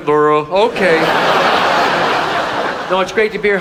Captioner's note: audience laughs